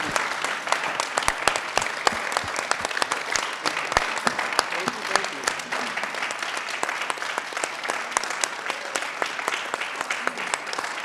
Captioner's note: applause